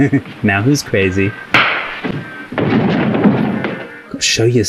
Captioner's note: loud snap